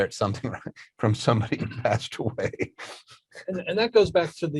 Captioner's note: laughs